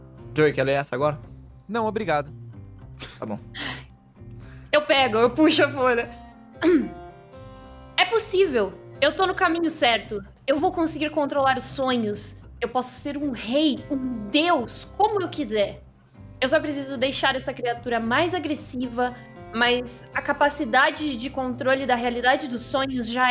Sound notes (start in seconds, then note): 3.0 sighs; 3.2 scoffs; 6.6 clears throat